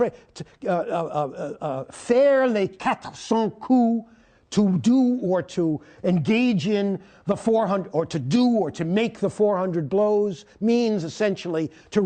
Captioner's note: speaking french